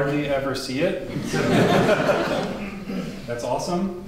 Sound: audience laughs

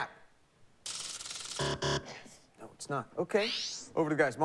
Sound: buzzer

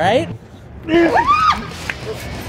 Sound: grunts; lady shrieks

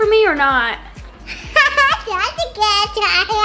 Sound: laughs loudly

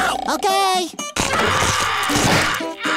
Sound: groaning

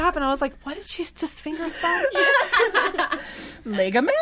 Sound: everbody laughing

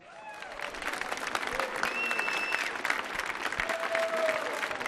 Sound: audience applauding

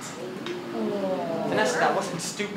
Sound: audience oohs

